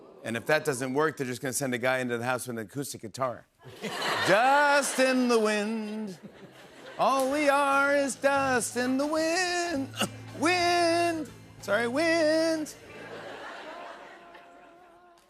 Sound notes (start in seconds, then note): 9.8 clears throat